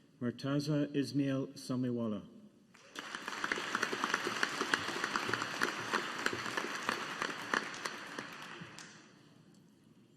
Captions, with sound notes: Murtaza Esmail Samiwala. (AUDIENCE APPLAUDING)